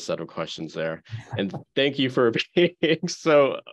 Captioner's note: laughing